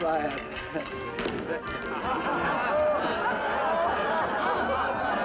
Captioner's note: laughter